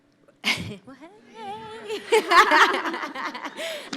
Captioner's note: laughs